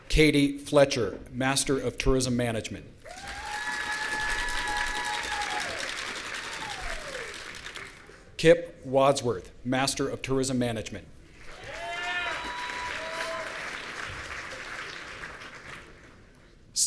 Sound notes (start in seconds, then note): 3.0 audience cheering; 11.5 audience cheering